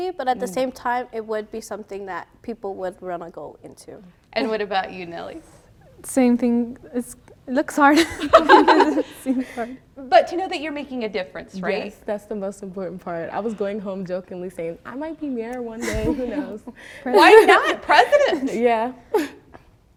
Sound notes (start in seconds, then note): 9.5 laughter